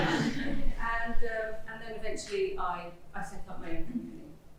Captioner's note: laughter